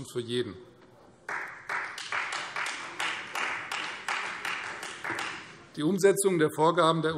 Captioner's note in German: Beifall Freie Demokraten